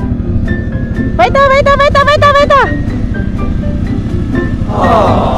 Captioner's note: speaking German